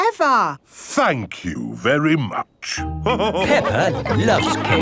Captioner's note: all laughing